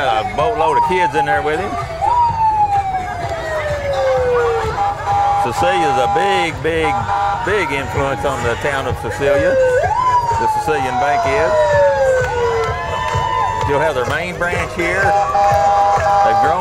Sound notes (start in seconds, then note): 2.9 siren blares